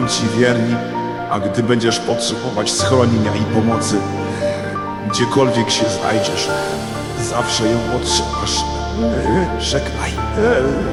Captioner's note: deeper, but heavy breathing